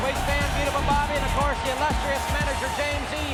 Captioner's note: crowd cheering